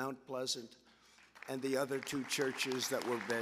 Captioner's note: applause